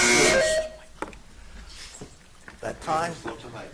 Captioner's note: buzzer buzzing